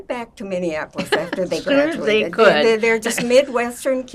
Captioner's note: laughing